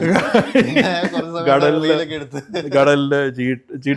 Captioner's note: laughter